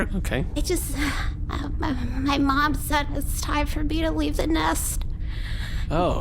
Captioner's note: Poof sighs